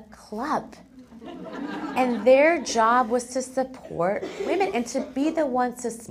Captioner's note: laugh